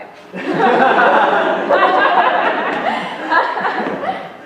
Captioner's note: laughter